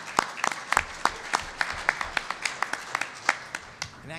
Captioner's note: applause